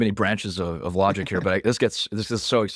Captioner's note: laughs